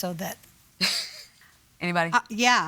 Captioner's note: chuckles